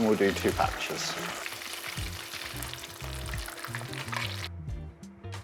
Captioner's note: sizzling sound